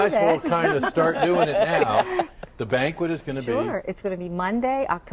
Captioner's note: laughter